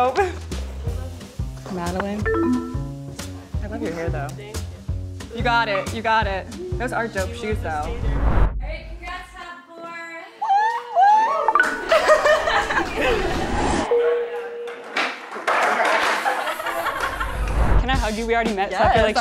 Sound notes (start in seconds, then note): 2.5 sad beeping sound; 7.8 whooshing; 11.5 happy beeping sound; 12.4 rising static; 13.9 bell dings; 14.8 skateboard falls; 15.4 people laugh